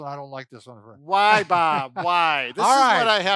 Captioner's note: laughter